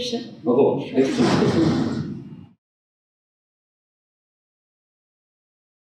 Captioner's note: laughter